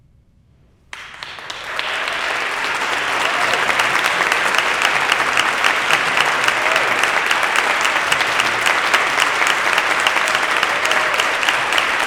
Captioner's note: applause